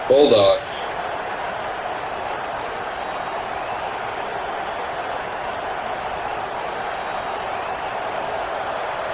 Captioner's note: crowd Noises